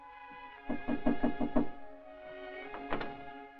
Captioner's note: knock at door